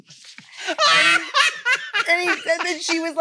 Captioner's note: crew laughing; guffaws